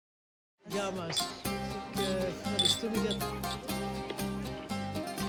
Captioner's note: glasses clinking